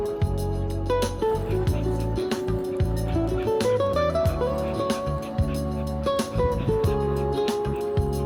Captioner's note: Rumi's heavy breathing tho.. 😂